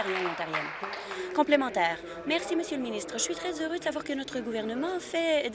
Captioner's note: applause